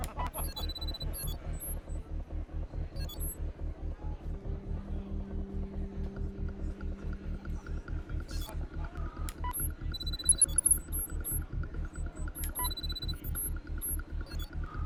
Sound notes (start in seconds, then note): 3.0 suspenseful music; 8.3 interface whirring